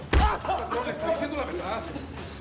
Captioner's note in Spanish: Quejido